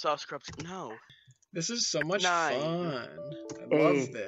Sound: sarcastically

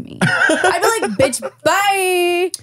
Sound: laughs

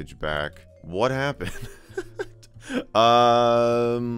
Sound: laughs

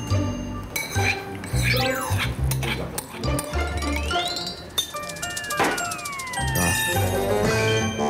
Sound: scrapes the bottom of the bowl

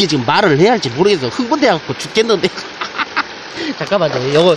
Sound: laughs

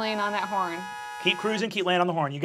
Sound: horn honking

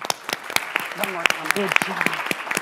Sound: audience applauds

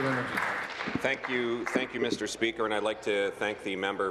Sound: applause

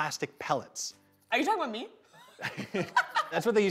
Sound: both laughing

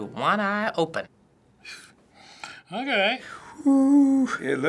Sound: scoffs

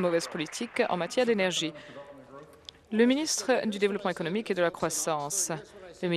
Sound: applause

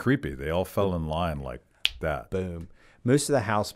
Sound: snapping fingers

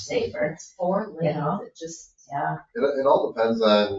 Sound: speaks distantly

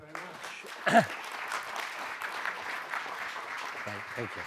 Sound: clapping

